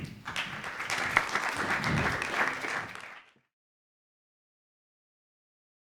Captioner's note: applause